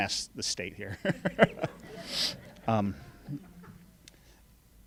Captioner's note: laughing